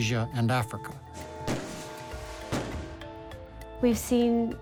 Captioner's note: fireworks exploding